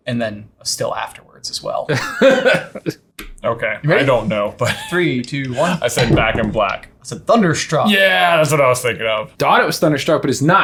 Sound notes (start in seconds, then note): 1.9 laughing